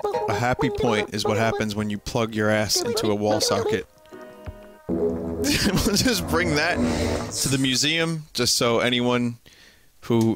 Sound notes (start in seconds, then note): 5.4 laughing